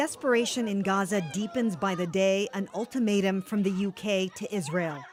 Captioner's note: crowd noise